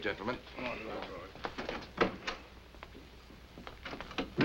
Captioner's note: men chattering